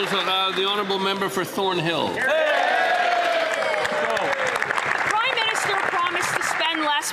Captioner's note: some Applause